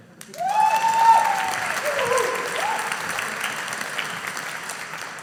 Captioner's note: audience applauding